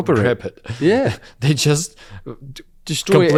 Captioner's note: laughs